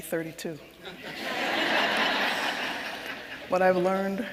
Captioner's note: audience laughing